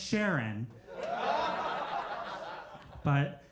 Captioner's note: crowd laughs